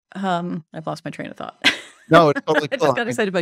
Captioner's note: chuckles